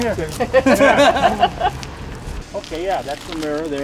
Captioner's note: background laughter